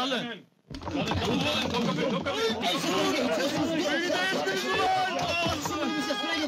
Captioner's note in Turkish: i̇ti̇şme sesleri̇